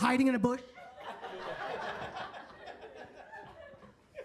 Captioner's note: attendees laughing